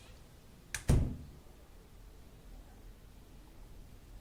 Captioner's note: door closes